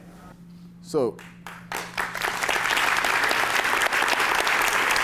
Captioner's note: applause